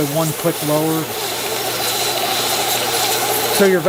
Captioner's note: vacuum whirring